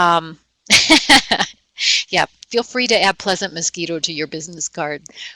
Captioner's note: laughing